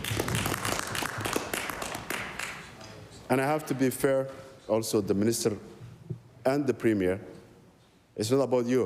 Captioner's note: applause